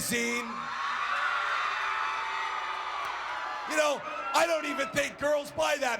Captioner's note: applause